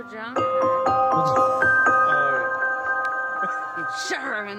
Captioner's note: laughing